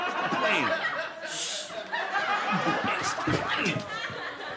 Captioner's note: audience laughing